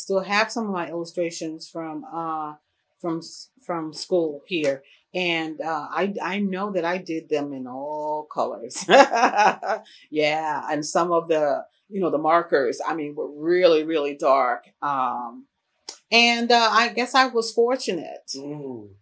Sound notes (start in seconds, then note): 8.8 laughs